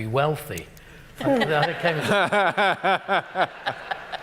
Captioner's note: laughter